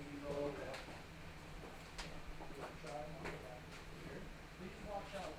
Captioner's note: muffled conversation